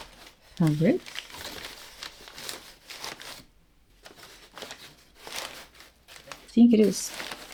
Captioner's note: paper crinkling